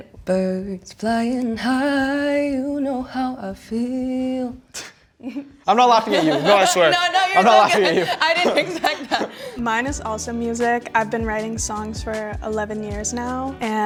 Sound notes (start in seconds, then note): 4.8 scoffs